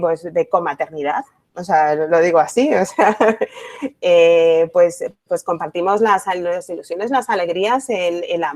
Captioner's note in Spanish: risas